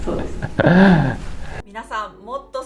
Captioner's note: laughs